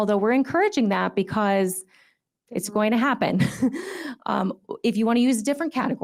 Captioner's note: chuckles